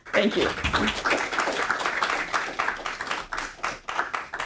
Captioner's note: audience applauding